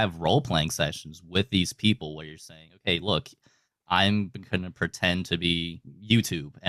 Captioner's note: none